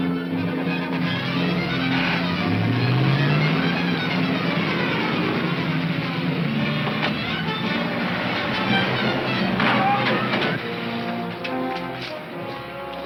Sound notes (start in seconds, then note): 2.7 engine roaring